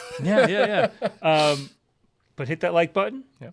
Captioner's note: laughs